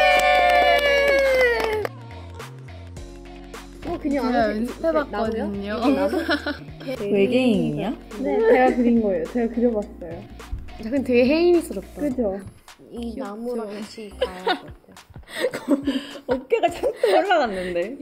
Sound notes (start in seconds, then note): 13.7 bursts into laughter